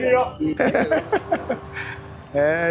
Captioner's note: laughing